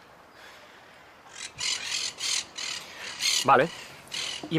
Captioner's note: chirping